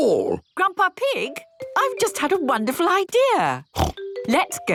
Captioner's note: snort